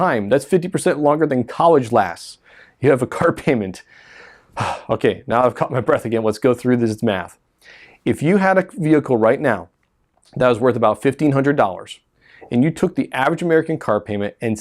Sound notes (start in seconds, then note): 3.8 deep breath